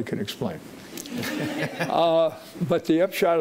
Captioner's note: audience laughing